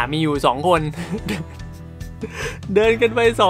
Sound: laughing

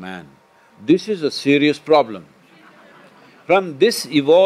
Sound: laughter/Applause

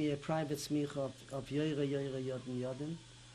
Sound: non-english

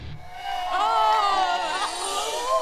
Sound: crowd cheers

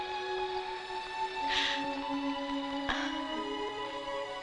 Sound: whimpers

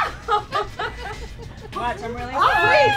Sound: laughter

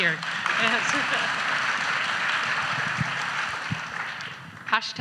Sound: audience applauds

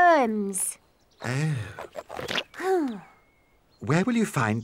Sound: sighs

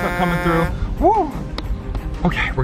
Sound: horn tooting

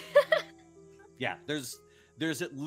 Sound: laughing

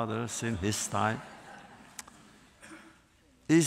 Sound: laughter

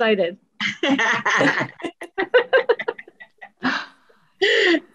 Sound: laugh

